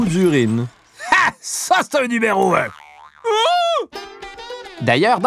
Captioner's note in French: cri d'effroi